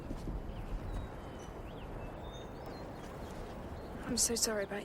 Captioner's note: water splashing